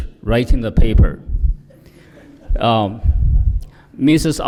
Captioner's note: laughter